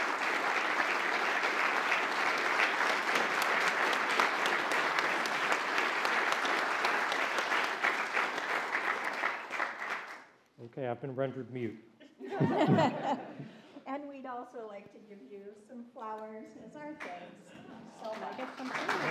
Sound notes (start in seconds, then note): 11.0 continued applause